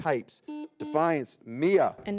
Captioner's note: buzzer beeps